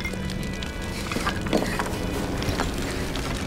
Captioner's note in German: Propellerbrummen